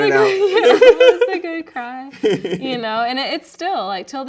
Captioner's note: laughing